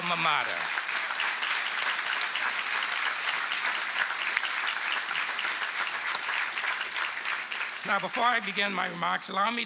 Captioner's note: applause